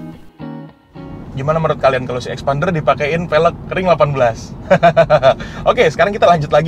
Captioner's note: laughing